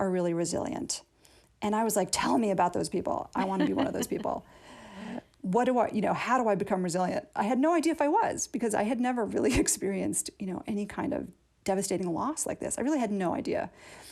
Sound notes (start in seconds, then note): 3.3 laughter